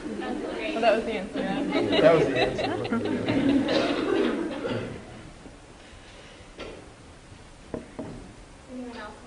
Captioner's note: laughter